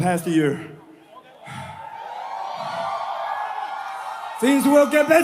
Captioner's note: crowd cheers